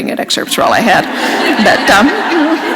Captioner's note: laughter